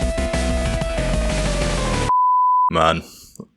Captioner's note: beep